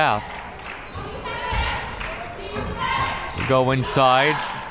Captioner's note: crowd members chanting